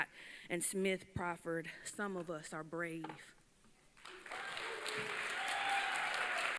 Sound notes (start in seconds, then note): 3.9 applause